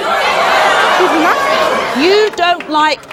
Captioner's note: audience boos